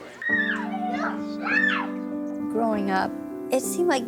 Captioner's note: playful screams